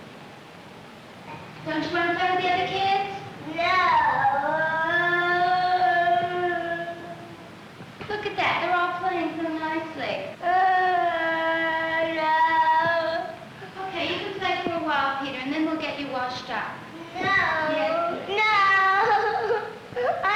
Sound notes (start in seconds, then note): 10.4 crying